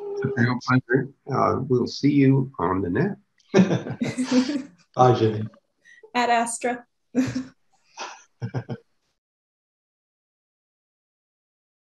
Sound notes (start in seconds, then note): 8.4 chuckles